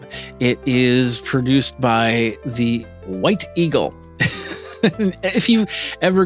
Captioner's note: laughs